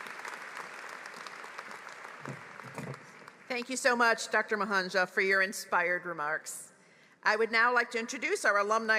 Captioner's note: applause